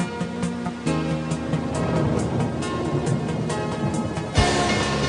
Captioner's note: thunder rumbling